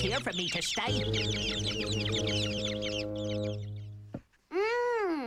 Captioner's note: chirping